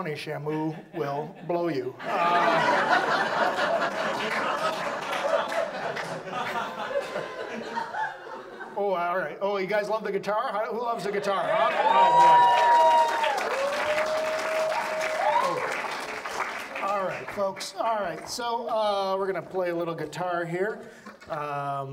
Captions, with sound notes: Shamu will blow you. (audience laughs) Oh, all right. You guys love the guitar? Who loves the guitar, huh? (audience applauds) All right, folks, all right. So we're gonna play a little guitar here.